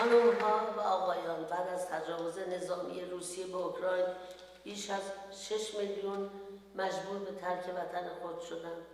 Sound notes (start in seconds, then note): 1.2 speaks in foreign language